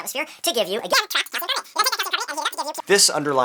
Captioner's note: chipmunk squeaking